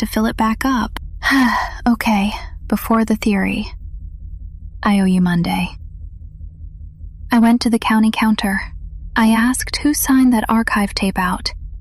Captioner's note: sighs